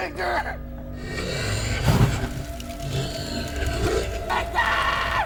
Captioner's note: Niall growling